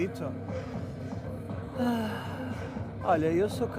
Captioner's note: sigh